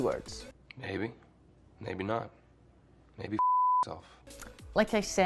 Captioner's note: beep